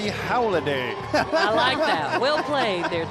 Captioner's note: laughing